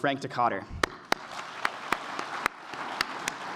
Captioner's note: applause